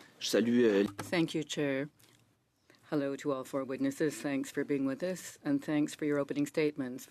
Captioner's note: speaking French